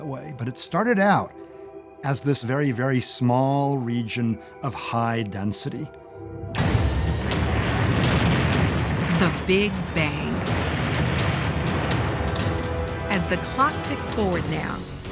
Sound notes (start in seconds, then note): 7.3 clicks, explosion; 12.0 ticking